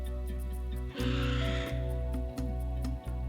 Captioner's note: vulture caws